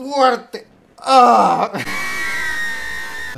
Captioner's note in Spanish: risa de terodactilo/mikey mouse :v